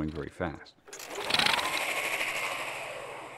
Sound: whirring softly

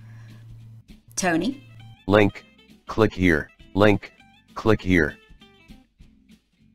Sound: screenreader voice

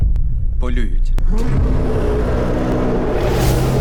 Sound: slow motion growl

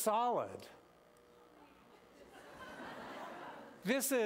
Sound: laughter

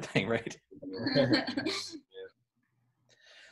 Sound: laughing; laughs

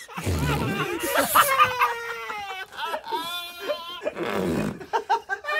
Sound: laughs like a baby

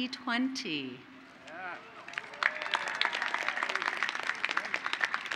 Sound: applause

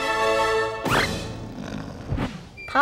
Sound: snoring

